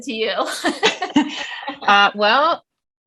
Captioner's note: giggles